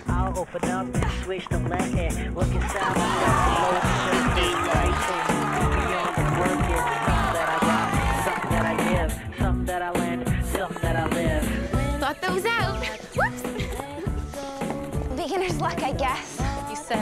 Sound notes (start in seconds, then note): 0.2 upbeat music; 2.5 crowd applauding; 9.4 upbeat music